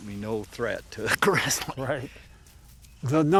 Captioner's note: chuckles